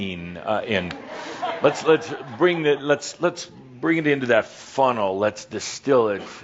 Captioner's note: some chuckles